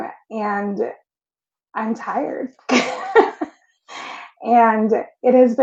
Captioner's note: laughs